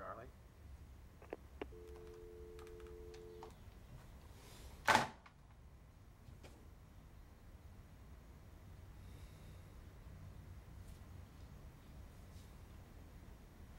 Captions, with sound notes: I'm sorry, Charlie. [click, dial tone]